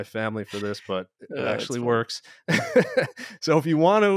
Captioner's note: laughs